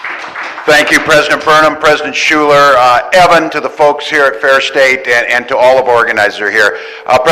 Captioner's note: cheering and applause